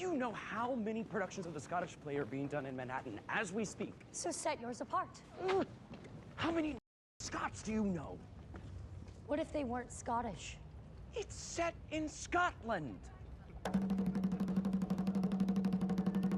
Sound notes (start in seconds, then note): 6.4 whispering; 13.6 drumbeats